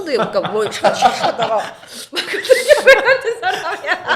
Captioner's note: ha ha